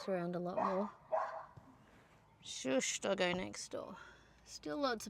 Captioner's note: more dog barking